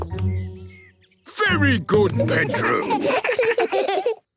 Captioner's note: children giggle